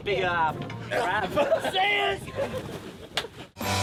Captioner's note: yelling; rock music